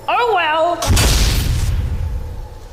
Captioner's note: circuit blows